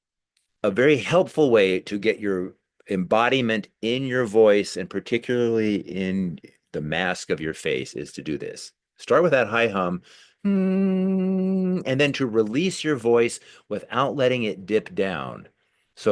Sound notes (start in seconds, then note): 10.4 humming